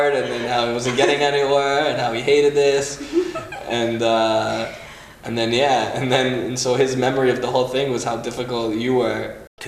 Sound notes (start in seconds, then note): 2.7 giggling